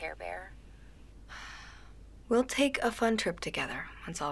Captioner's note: sighs